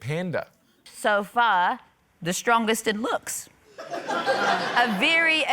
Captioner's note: laughter